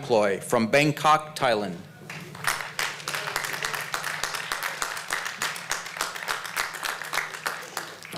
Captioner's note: applause